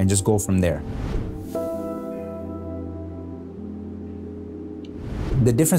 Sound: whoosh sound; gentle beats

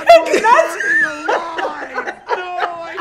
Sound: laughing

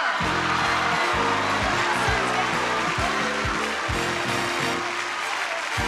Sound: audience cheer and clap; jaunty music

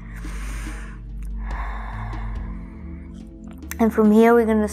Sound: inhaling

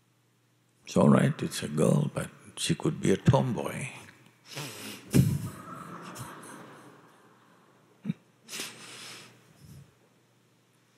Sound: laughter

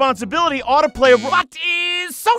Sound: buzzer

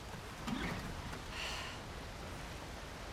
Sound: sigh

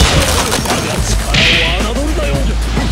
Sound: boing

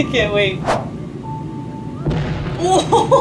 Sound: background chatter in clip; explosion noise; laughing

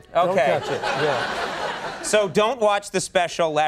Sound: laughing

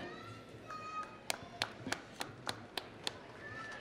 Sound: applause

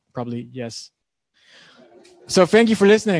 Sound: laughing

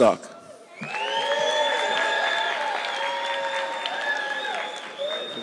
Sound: audience clapping

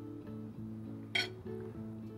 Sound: spoon tapping

